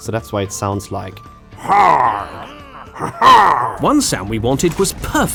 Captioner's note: cackles